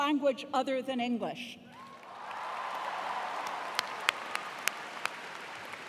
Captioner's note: cheers and applause